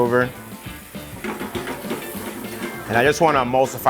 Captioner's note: pan rattles